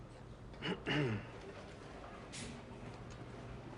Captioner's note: clears throat